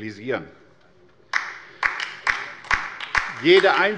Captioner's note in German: Beifall bei der LINKEN